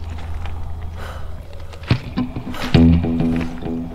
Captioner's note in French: respiration profonde